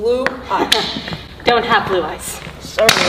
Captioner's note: chuckles